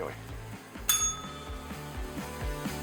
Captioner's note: bell rings